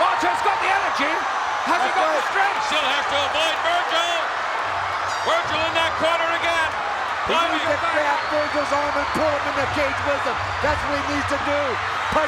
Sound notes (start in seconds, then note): 7.3 commentators vocalizing